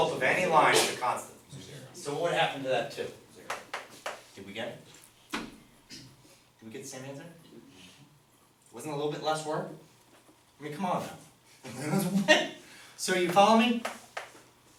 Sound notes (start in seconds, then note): 11.9 laughs